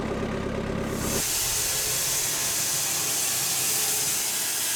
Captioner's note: blade sawing